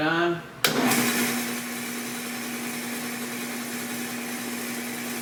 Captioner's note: machine roaring